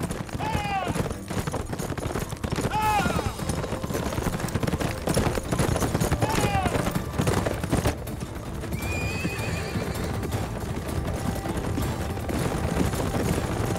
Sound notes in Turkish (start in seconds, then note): 8.7 At kişniyor; 10.6 Hareketli müzik